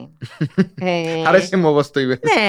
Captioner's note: he laughs